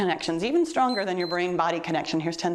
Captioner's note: timer beeps